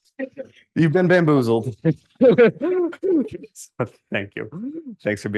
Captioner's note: laughter